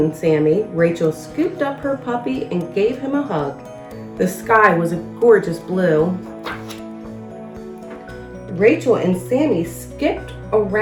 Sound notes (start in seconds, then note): 5.7 uplifting instrumental music; 6.4 pages shuffles